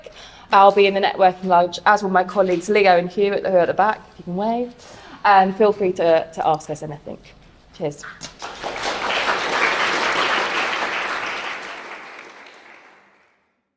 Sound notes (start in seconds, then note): 8.3 applause